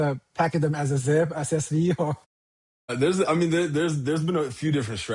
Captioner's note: chuckles